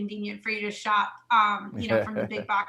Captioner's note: laughing